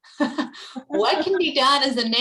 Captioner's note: laughing